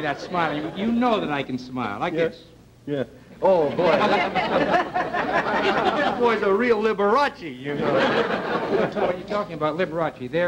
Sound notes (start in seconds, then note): 1.3 audience chuckling; 5.2 audience laughter